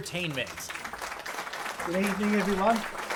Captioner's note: audience claps